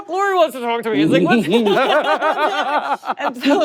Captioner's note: all laughing